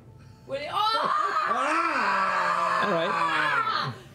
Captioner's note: screaming